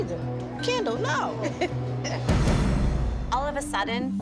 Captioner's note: laughs